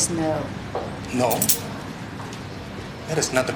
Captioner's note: handcuffs clink